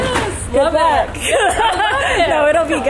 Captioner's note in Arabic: كلاهما يضحك